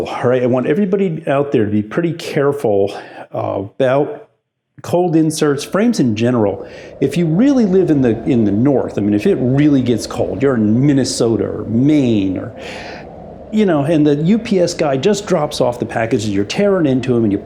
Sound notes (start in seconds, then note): 6.7 blizzard